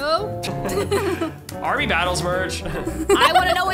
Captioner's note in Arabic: يضحك دراماتيكي